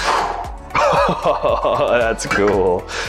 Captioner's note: chuckling